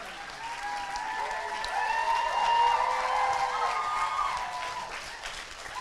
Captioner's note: audience clapping and cheering